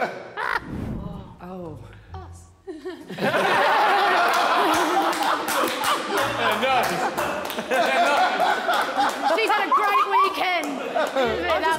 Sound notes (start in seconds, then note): 2.8 Sidemen laughing hysterically